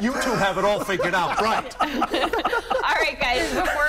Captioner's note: laughter